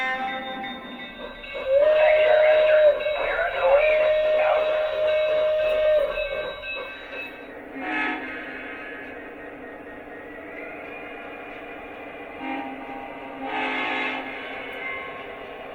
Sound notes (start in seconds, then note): 1.5 steam whistle; 13.4 diesel horn